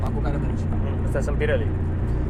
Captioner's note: tyres